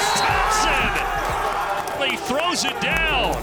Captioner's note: crowd cheering